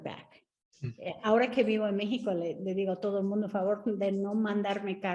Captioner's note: Sandra speaking Spanish